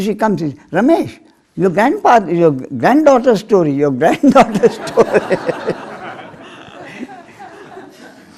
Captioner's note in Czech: smích